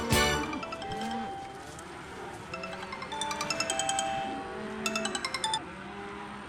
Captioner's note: phone ringing